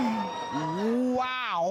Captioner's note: all exclaim